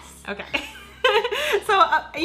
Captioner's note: laughs